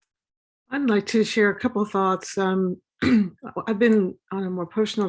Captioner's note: cough